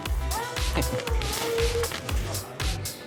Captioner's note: laughs